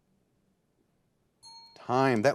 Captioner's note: bell dings